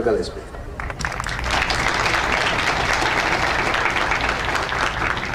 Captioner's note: audience applauding